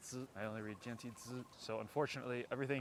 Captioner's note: Mandarin